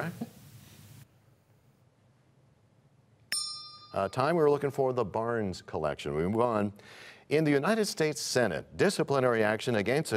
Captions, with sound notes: Incorrect. (bell rings, time expires) We were looking for the Barnes Collection. In the U.S. Senate, disciplinary action